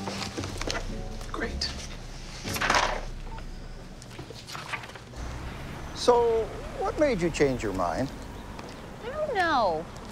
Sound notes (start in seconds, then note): 3.2 phone beeps